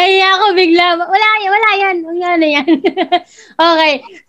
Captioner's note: laughs